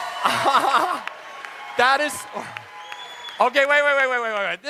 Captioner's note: audience cheers; laughs